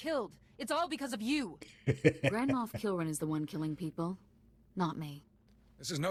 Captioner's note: laughs